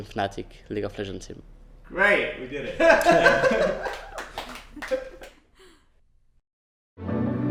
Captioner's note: laughing, clapping